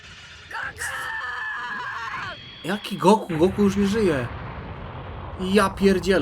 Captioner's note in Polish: krzyk